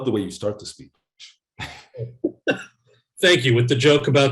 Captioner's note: Kal laughs